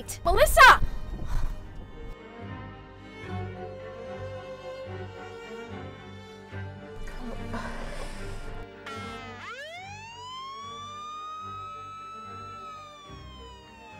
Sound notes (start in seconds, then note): 1.9 dramatic music; 7.0 siren wailing